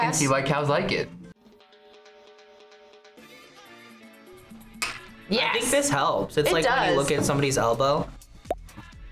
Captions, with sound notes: - I mean, I can see why cows like it. (glasses clink) - Yes! - I think this helps. - It does! - It's like when you look at somebody's elbow.